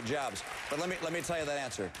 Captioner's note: applause